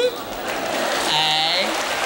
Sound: applause and cheering

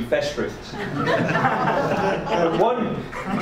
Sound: audience laughs

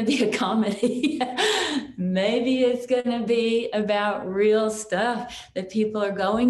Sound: chuckles

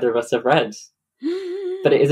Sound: gasps theatrically

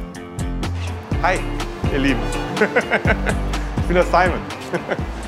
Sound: he laughs

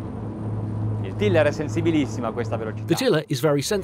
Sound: speaking in foreign language

